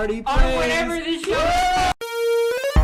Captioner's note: screaming